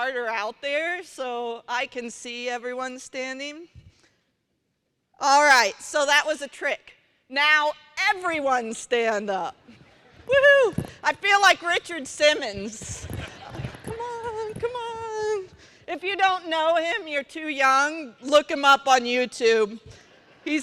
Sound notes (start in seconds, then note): 13.1 laughter